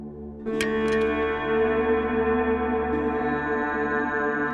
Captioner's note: shovel clacks